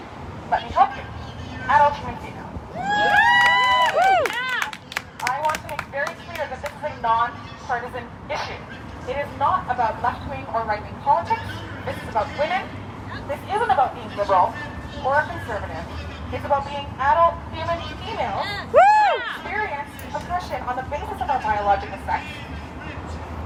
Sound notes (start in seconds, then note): 2.7 cheering